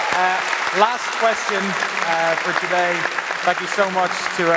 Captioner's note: applause